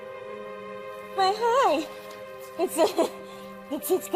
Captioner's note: nervously laughs